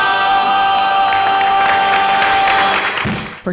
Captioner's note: audience applauds